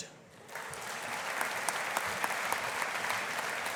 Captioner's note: audience applauding